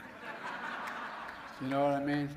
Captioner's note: laughter